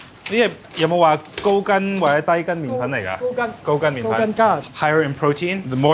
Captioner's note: speaking foreign language